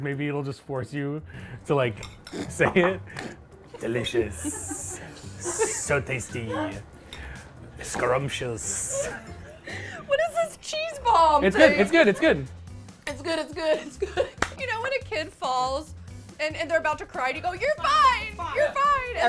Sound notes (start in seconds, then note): 3.7 laugh; 13.2 laughs